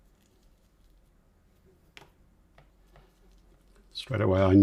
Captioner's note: silence